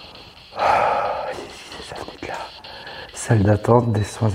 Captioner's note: sigh